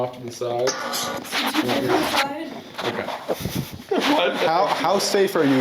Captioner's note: indistinct chatter